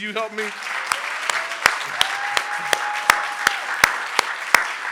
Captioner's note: audience applauding